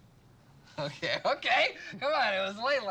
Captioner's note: laughing